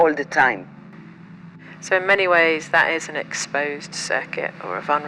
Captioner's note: southern voice